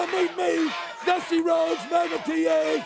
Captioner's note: crowd cheering